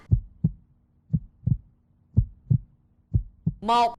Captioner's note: heartbeat